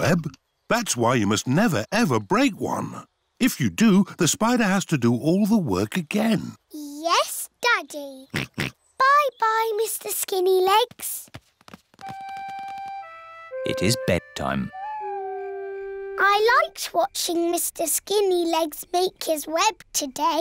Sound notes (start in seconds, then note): 8.3 oinks; 14.6 owl hoots